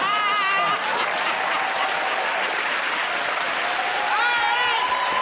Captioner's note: laughter; cheers and applause